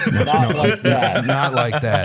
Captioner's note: laughs